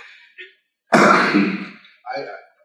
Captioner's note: cough